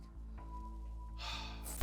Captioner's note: sighs